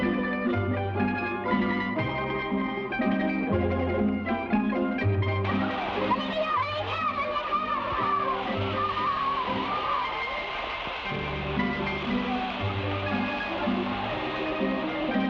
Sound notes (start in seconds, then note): 5.4 fireworks hiss; 5.7 boys shout